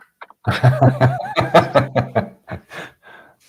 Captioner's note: laughter